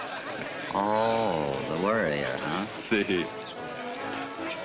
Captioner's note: in spanish